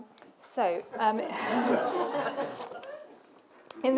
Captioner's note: laughter